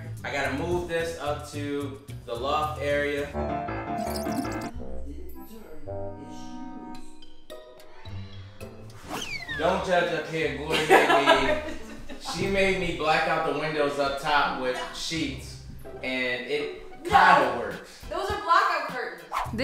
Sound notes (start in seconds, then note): 3.6 fast-paced music; 5.1 music slows; 10.7 laughs